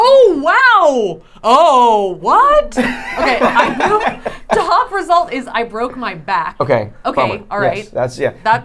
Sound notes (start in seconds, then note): 2.8 laughing